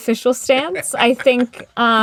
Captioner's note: laughter